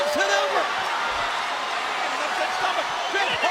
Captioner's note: crowd cheering